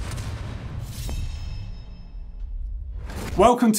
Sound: metallic clink

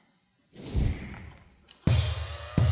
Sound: whoosh

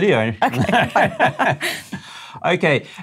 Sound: laughter

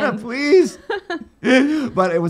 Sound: laughing

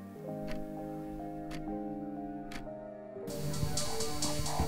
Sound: clock ticking

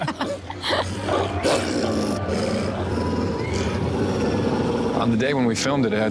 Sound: both laughing; wolves snarling

